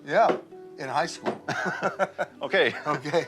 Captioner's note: both laugh